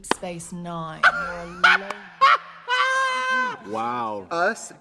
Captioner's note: Trixie laughs